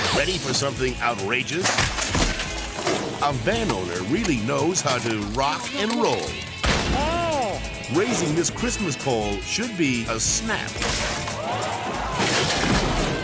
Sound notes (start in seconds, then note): 6.6 person gasps; 6.6 slab bangs; 10.8 pole snaps; 13.0 crowd gasps